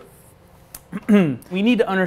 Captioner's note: clears throat